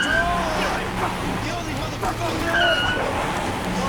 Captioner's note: all shouting; car engine revving; car tires screeching